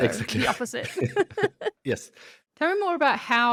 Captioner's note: both laugh